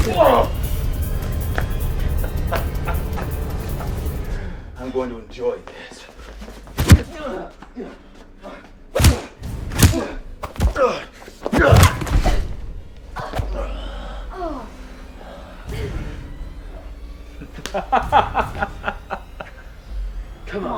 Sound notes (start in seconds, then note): 2.0 groaning and laughing; 11.5 both grunting; 17.3 laughing